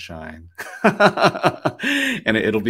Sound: laughs

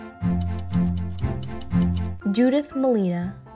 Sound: whimsical music; typewriter clacking

